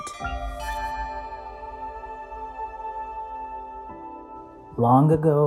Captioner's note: star Chime